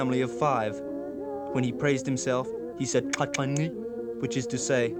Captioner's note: non-english speech